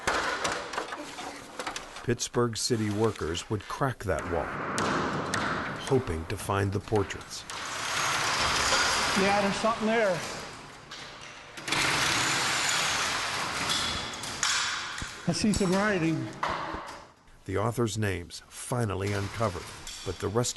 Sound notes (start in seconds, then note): 4.6 hammer striking; 7.4 tool whirring; 11.5 tool whirring